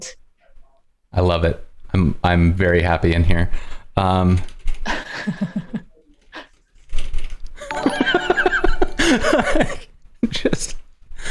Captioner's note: laughter